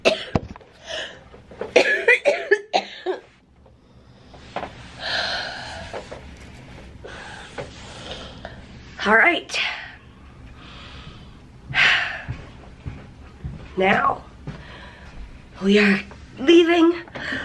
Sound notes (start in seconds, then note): 0.1 coughing; 10.4 breathing heavily